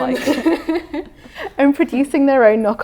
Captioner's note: both laughing